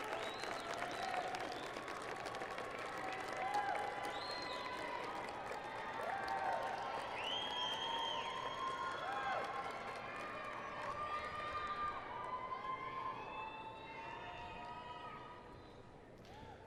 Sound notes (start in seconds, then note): 5.6 cheers and applause